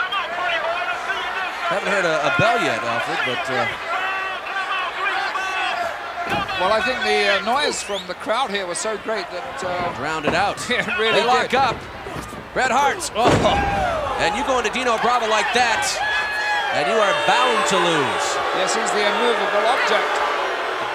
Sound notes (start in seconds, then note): 17.9 audience booing